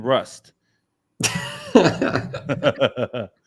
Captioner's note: laughs